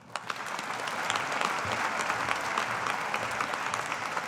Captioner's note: audience applauding